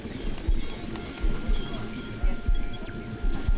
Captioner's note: warbling continues